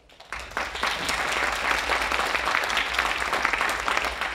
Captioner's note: audience applauding